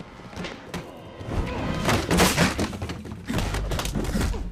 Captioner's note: chair clattering; punches smacking